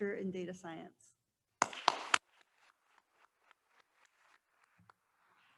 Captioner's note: attendees applauding